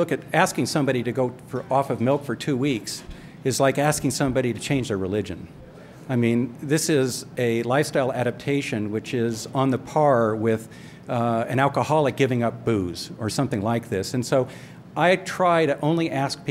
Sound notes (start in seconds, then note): none